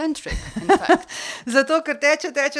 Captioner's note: laugh